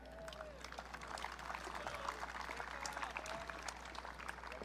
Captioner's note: audience cheering